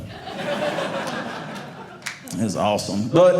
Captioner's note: audience laughing